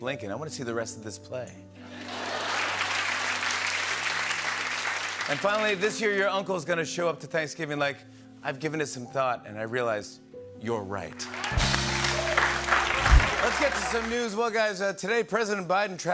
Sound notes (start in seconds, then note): 1.8 laughter and applause; 11.2 cheering and applause